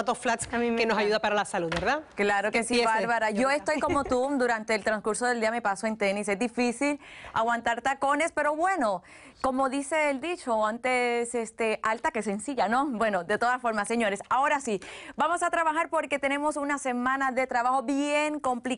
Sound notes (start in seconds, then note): 0.6 laughing